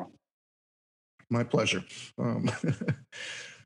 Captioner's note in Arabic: يضحك